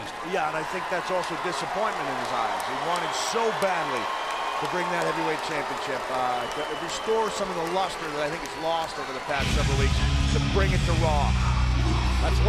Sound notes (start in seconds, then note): 2.2 audience applauds and cheers